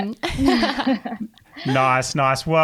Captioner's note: laughing